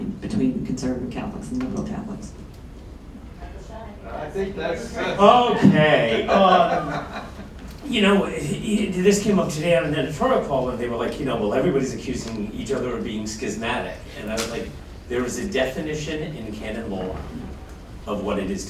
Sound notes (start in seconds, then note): 6.0 laughter